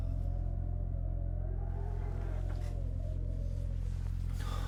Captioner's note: wind howling